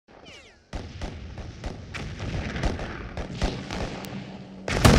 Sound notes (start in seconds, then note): 0.1 gun shots and explosions